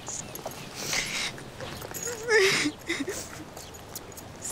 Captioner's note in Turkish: Öykü ağlıyor